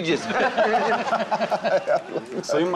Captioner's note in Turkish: Gülme sesi